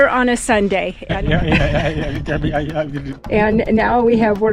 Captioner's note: sound of vibration on bumpy road